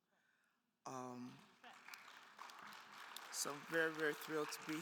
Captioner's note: attendees applauding